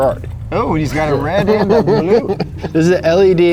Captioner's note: laughing